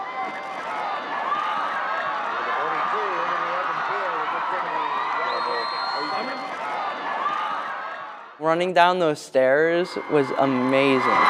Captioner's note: cheering